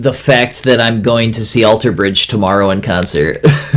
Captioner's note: laughs